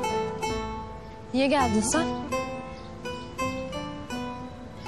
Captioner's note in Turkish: none